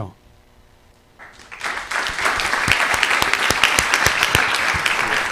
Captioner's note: applause